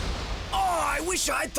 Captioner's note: explosion